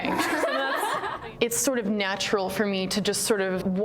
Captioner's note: laughter